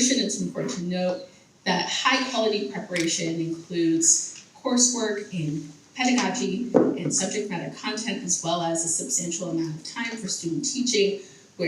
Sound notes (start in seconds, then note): none